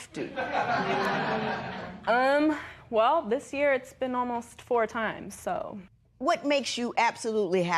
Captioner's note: laughter